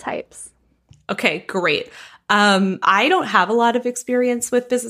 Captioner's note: none